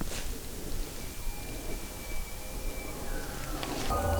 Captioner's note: caller bugling